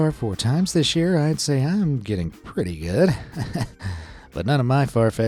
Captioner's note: chuckles